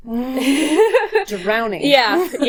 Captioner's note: laughing